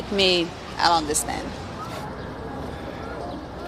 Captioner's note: chuckles